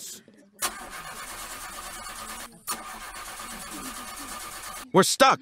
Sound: bus engine

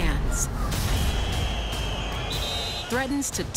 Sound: suspenseful music; whistle beeping

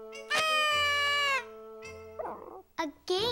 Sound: whistle

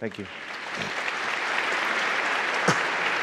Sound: audience applauding; coughs

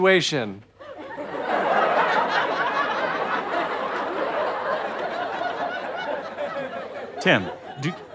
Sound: audience laughter

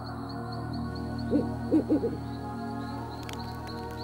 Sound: owl hooting

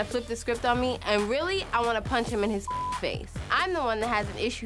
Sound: beep

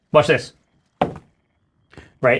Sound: rolls dice

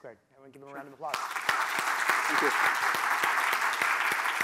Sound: applause

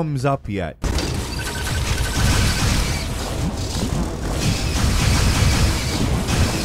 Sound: explosions blasting; tense music

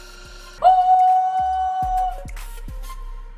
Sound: shouts

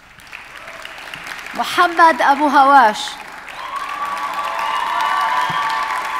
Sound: audience applauding

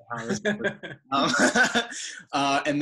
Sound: laughing

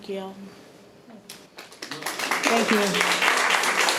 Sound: audience clapping

